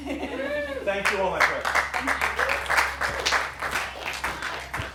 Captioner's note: applause